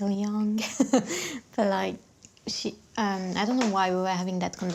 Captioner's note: laughing